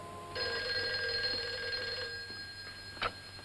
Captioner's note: phone rings